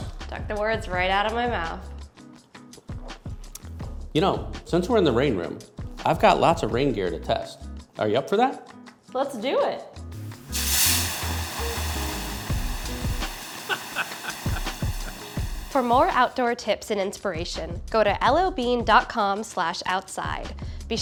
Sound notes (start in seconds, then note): 10.1 running water; 13.7 laughs